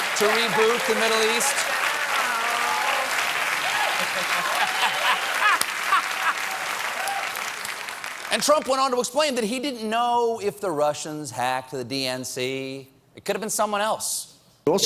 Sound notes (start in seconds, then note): 3.4 applause; 3.8 laughter